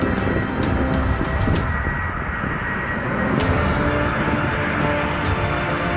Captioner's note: plane engine roaring; dramatic music